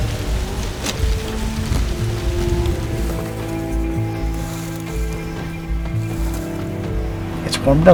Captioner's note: sound of wind in corn